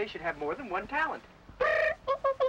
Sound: hooting

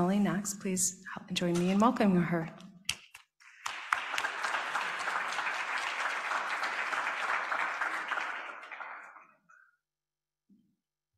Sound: applause

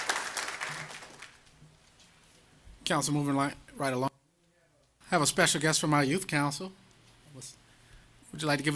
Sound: applause

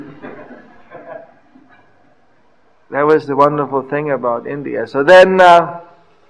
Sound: laughter

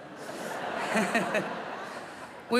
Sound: laughter

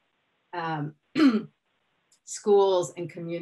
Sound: clears throat

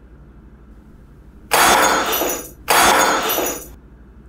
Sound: smash glass

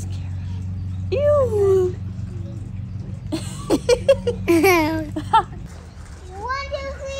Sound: laughing

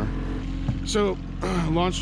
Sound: boat engine idling

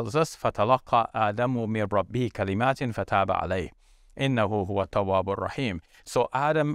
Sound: speaks in foreign language

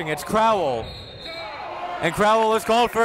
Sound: whistle

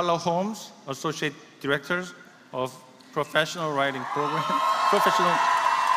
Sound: applause

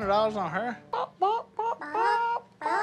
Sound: all clucking; clucking

